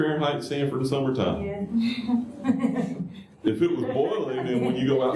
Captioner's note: laughter